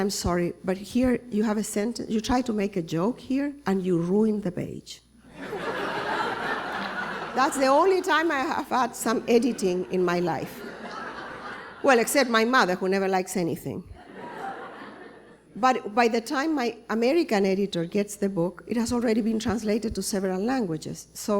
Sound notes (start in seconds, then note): 5.3 laughter; 14.1 laughter